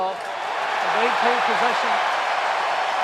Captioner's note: cheering